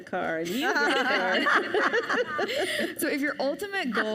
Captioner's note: panelists laugh